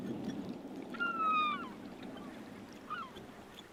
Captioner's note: gulls calling